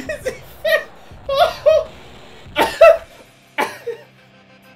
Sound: abortive attempt at talking, resumes laughing; coughing

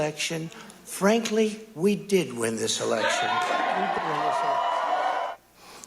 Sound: cheering

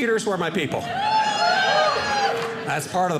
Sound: audience laughing

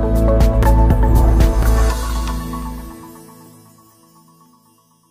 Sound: bright music; logo whooshing

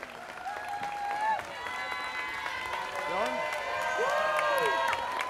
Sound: students cheering

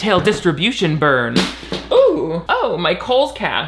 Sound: crashing

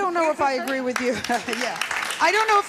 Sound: clapping

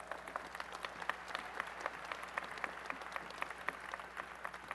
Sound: applause

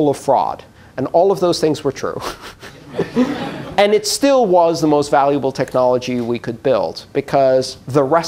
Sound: laughter

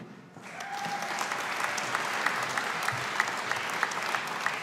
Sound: audience applauding

